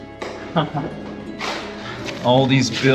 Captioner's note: chuckling